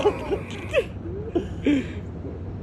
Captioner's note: both laugh